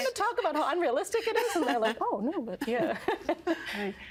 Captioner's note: laughing